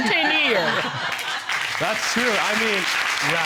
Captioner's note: audience laugh